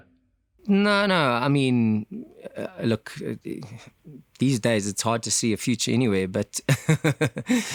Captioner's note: laugh